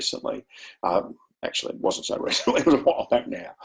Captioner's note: chuckles